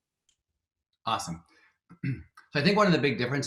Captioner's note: clears throat